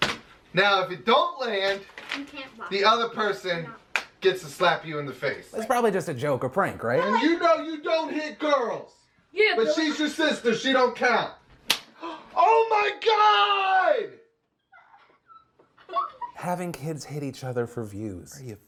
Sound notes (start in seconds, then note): 11.6 slaps violently; 14.4 girl starts crying